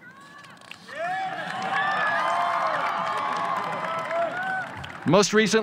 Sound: audience cheers

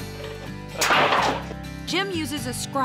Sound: tin snaps

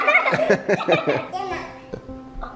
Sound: laughs

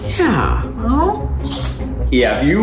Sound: crunching

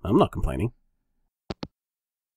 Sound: hangup

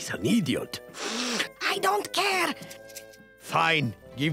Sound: sniffing

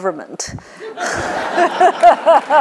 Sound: laughter

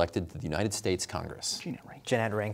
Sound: whispering

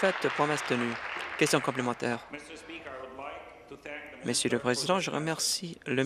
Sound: applause

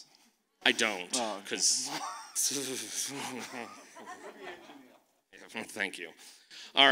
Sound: makes shivering sound

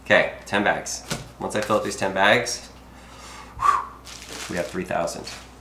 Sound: exhales sharply

